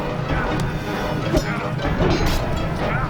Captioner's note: wooshing